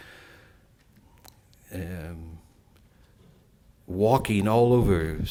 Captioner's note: silence